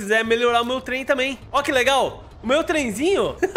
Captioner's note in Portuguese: risos